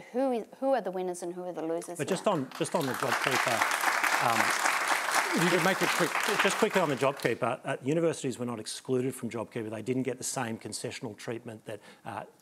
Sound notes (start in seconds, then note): 9.9 applause